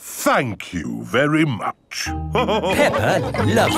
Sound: all laughing

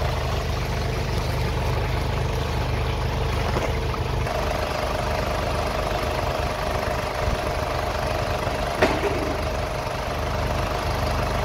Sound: car Running

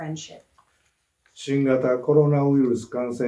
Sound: speaking japanese

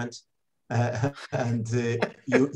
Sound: both laughing

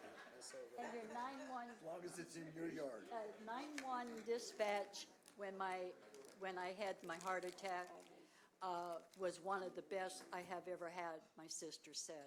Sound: laughter

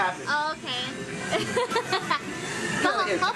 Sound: laughing

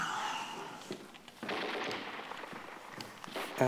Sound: video game sounds

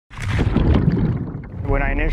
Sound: sound of Air Bubbles

